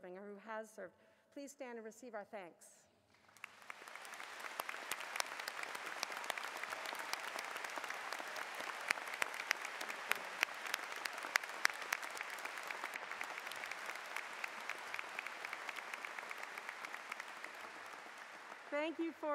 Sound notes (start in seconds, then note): 4.6 applause